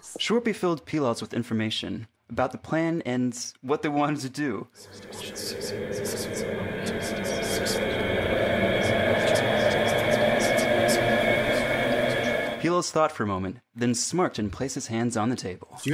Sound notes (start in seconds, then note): 4.7 intense whispering; 7.8 whispering intensifies